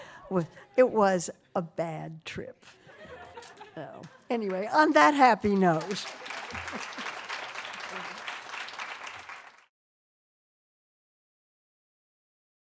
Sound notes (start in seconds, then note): 2.8 laughter; 10.4 applause